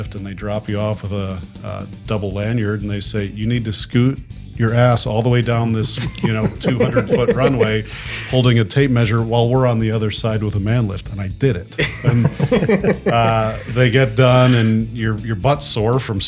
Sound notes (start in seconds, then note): 5.8 group laughs; 11.7 laughs